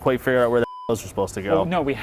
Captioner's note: beep